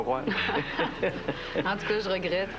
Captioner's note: Rires